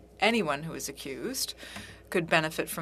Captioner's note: speaking French